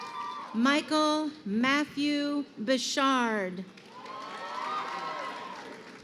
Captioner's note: crowd cheering